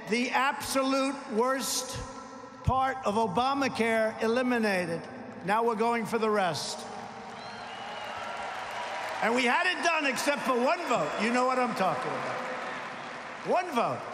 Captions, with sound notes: the absolute worst part of Obamacare, eliminated. Now we’re going for the rest. (applause) And we had it done except for one vote. You know what I’m talking about. One vote.